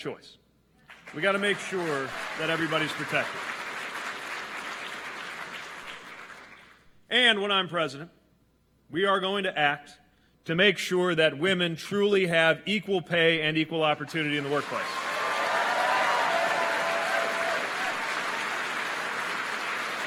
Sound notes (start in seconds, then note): 5.5 applause